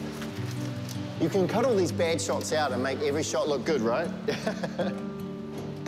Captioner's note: laughs